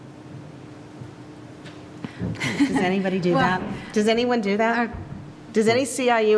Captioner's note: laugh